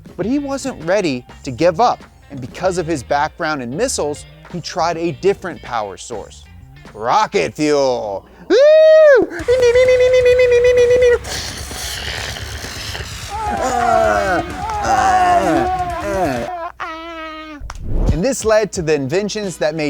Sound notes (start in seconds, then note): 9.4 rock music playing; 13.2 cheering